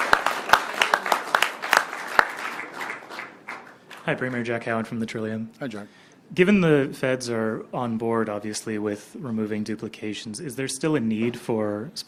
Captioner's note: applause